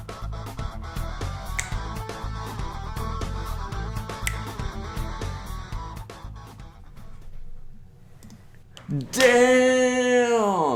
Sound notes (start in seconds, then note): 0.1 upbeat rock music; 1.2 snaps fingers